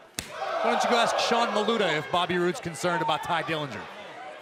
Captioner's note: crowd chatter